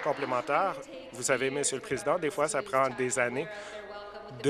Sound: applause

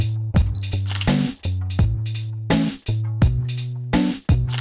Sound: camera beeps and clicks

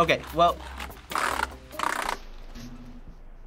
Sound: mashing keys

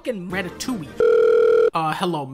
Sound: phone Ringing

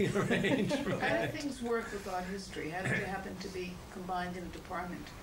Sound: laughter

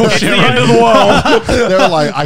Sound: all laughing

